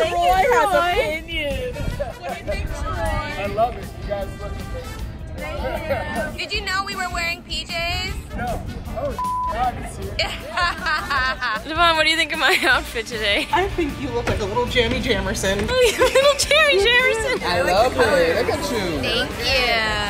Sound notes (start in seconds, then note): 9.2 beep; 10.1 laughs; 15.7 giggles